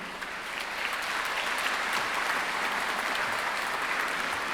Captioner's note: audience applauds